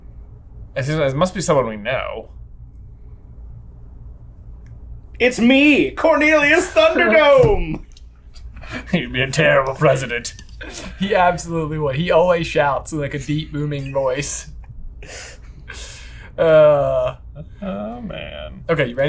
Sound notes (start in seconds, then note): 8.0 laughing; 14.2 laughing